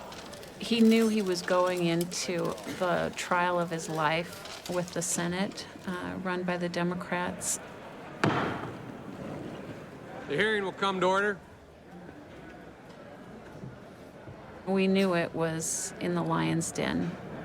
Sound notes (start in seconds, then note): 8.2 gavel bangs